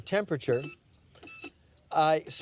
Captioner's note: beeping